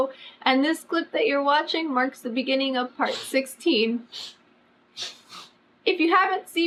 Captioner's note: cats hiss